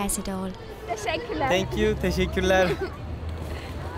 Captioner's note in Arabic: بالتركية